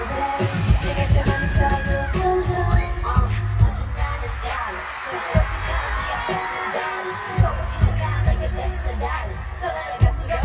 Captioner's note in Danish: Bifald